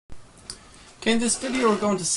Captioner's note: voiceover